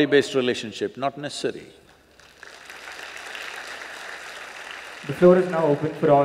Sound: applause

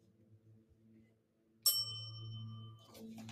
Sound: bell dings

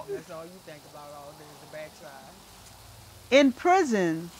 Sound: indistinct chatter

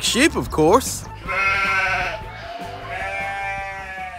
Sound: bleating

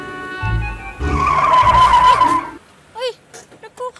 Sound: tires screeching

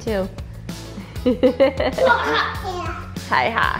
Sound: laughs

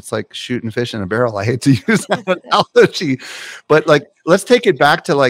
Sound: laughs

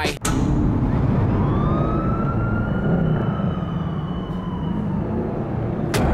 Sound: siren wailing

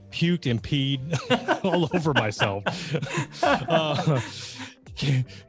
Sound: both laughing

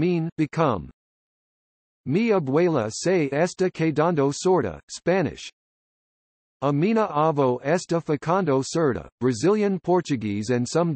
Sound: Spanish

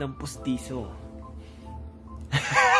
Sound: laughs

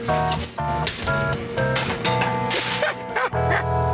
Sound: oven door rattling; Jon laughing

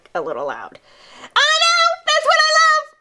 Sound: speaks loudly

